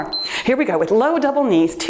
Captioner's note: timer beeps